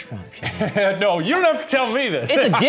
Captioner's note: laughing